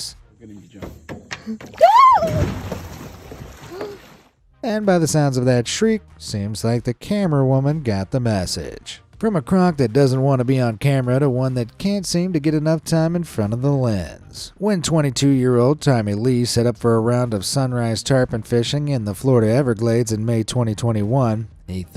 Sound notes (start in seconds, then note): 1.6 water splashing; 1.7 camerawoman screaming